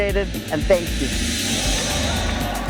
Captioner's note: cheering